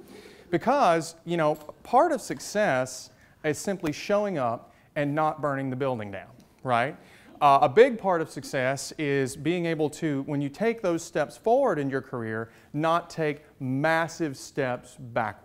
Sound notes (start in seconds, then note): none